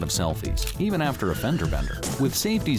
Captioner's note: brakes squeal, cars crash